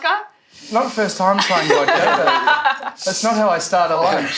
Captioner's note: laughs